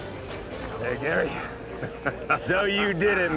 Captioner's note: chuckling